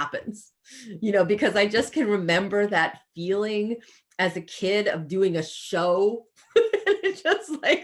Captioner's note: laughs